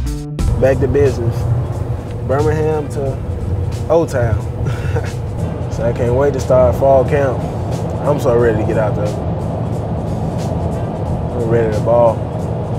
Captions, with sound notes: Back to business. Birmingham to O-Town. (laughing) I can't wait to start fall camp. I'm so ready to get out there. Ready to ball.